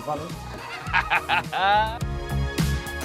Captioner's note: laughs